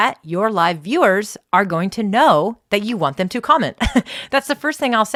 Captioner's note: laughs